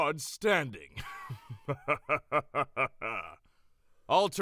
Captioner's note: laughs